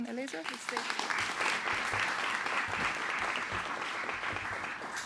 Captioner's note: applause